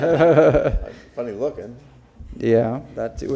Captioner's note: laughter